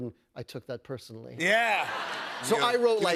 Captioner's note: laughter